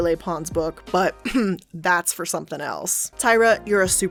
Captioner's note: clears throat